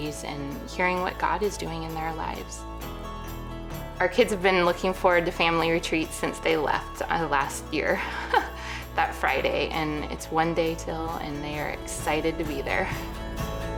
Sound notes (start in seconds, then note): 8.0 laughs; 13.5 upbeat music